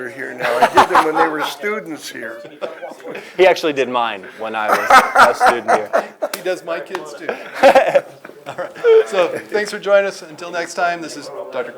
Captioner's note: laughs